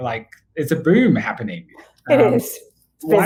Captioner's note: giggles